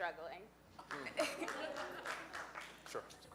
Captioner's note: audience applauds and laughs